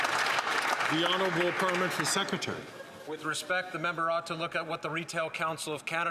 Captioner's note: some Applause